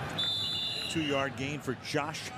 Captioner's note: whistle